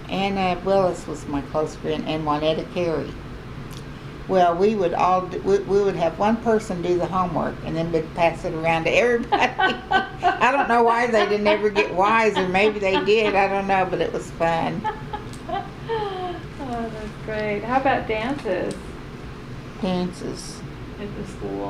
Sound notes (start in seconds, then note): 9.1 laughter; 16.2 laughs